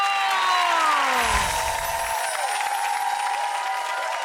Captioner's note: applause